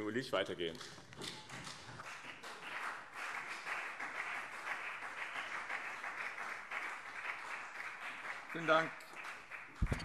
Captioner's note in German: Beifall BÜNDNIS 90/DIE GRÜNEN und CDU